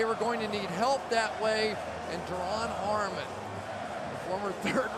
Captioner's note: crowd chanting